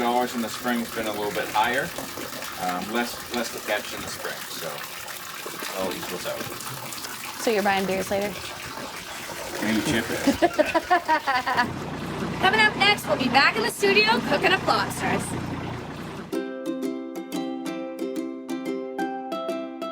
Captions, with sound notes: In the spring it's been a little bit higher. Less to catch in the spring, so it all equals out. - So you're buying beers later? - You chip in. (laughter) - Coming up next, we'll be back in the studio, cooking up lobsters. (gentle upbeat music)